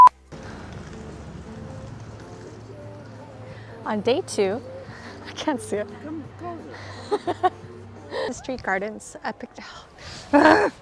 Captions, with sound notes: On Day 2, - I can't see it. - Come closer! - *laughs* Princes Street Gardens, ugh